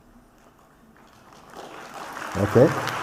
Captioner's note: applause